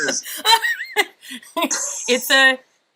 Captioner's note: laughing